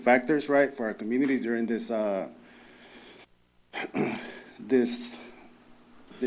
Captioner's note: clears throat